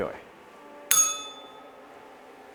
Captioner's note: bell rings